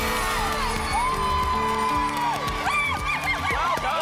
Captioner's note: applause and cheering